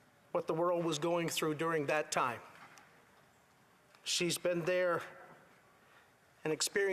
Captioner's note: none